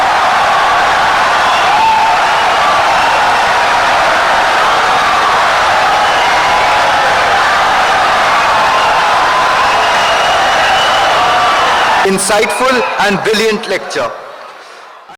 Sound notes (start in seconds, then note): 1.7 wild applause and cheering for 17 seconds